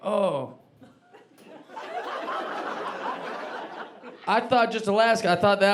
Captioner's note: audience laughing